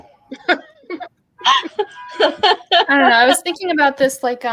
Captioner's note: laughing